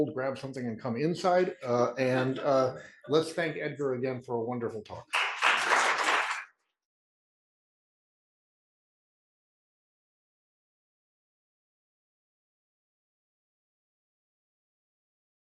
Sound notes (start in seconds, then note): 5.0 applause